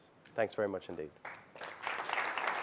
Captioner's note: applause